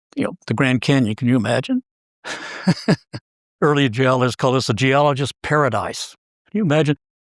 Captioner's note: laugh